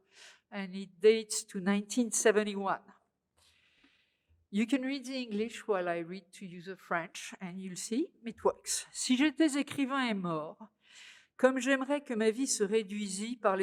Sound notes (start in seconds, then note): 9.0 speaking french